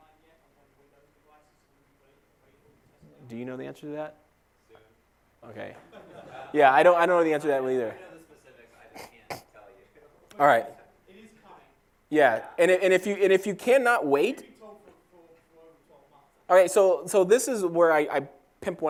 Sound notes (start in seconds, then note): 5.8 laugh